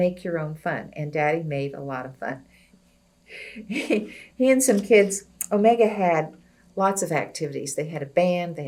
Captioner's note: laughs